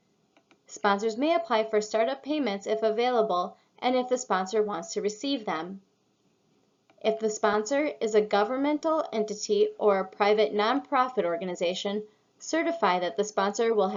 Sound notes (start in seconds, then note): 0.3 click; 6.8 click